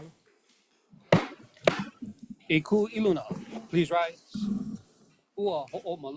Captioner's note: gavel bangs twice